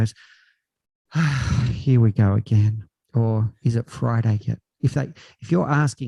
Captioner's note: sigh